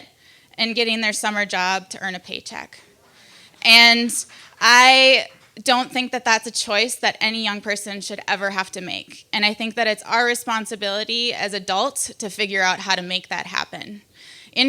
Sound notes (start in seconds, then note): 3.5 applauds; 3.5 crowd